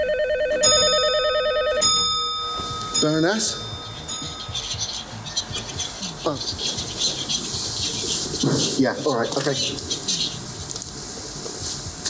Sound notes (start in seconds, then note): 5.2 tinny phone shouting